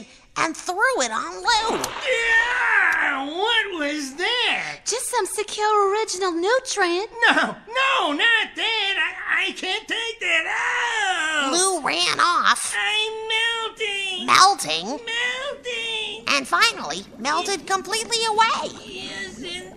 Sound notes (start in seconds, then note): 15.2 Lu shouting melting